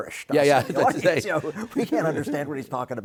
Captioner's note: chuckles